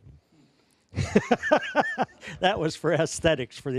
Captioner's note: laughing